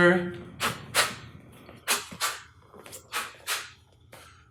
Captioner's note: quick breaths